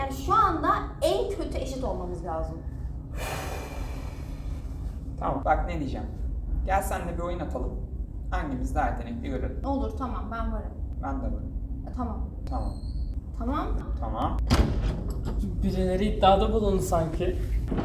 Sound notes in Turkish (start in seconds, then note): 3.1 Bulut iç çeker; 14.4 kapı açılır